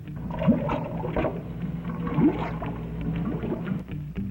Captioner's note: water bubbling